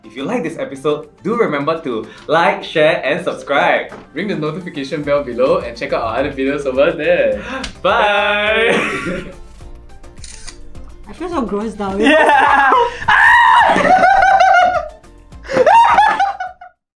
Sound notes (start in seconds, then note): 12.0 screams